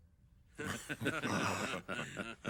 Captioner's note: laughter